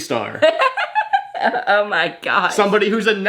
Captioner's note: laughs